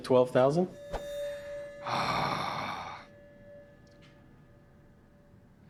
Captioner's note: metallic ringing; rick groans